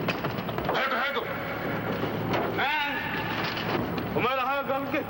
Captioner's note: yelling in foreign language